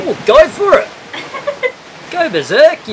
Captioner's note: laughs